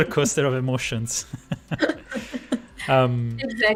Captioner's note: laughter